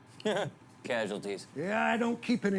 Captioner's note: Louie laughs